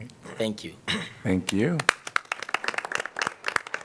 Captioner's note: applause